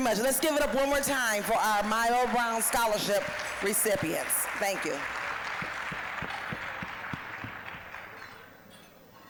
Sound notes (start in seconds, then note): 5.7 applause